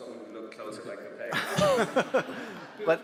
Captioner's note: audience laughs